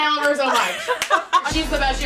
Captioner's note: laughing